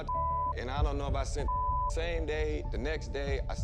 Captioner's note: beep